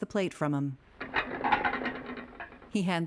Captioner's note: plate clattering